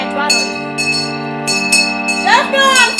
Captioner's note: bell ringing